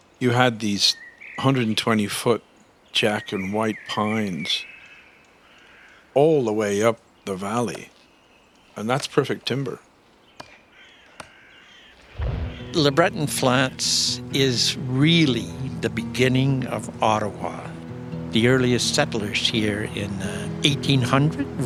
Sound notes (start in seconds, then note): 9.9 ax chopping; 12.0 tree thuds; 18.3 sound of falls rushing